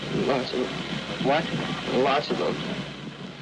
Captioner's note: voice trembling